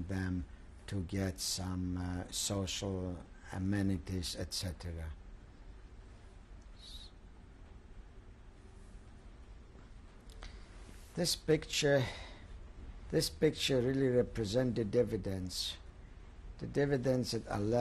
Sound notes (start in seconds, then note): 5.4 pauses for 6 seconds